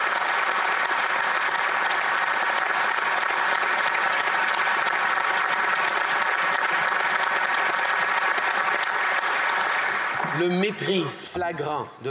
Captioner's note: applause